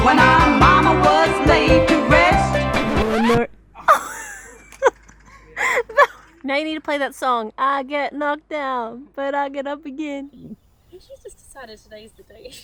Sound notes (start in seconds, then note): 3.8 laughs